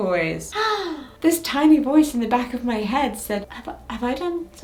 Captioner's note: gasps